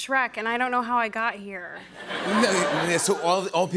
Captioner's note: laughter